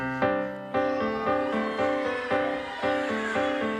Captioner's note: crowd screaming